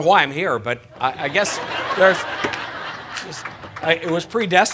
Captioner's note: laughter